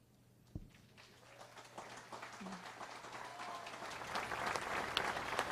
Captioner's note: audience applauds